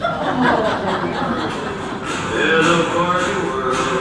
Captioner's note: audience laughs